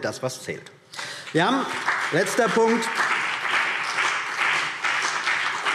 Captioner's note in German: Beifall BÜNDNIS 90/DIE GRÜNEN und vereinzelt CDU